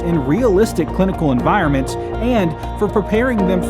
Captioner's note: none